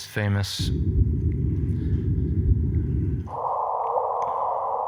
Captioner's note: gravitational waves undulating